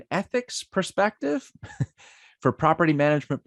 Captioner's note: giggles